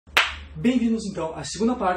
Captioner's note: clap